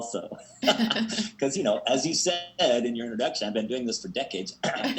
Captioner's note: laughs